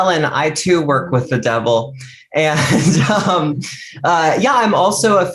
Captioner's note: laughs